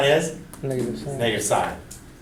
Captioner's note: voiceover